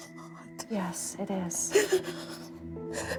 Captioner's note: sobs